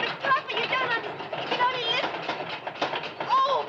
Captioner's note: loud rattling